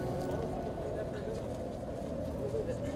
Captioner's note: people talking quietly in the loud wind